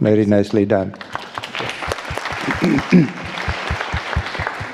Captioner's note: audience applauding